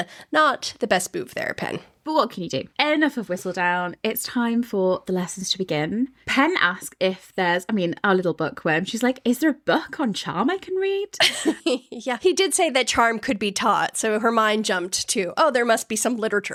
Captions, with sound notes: not the best move there, Pen. But what can you do? Enough of Whistledown, it's time for the lessons to begin. Pen asked if there's, I mean, our little book where she's like, is there a book on charm I can read? (laughing) He did say that charm could be taught. So her mind jumped to, oh, there must be some literature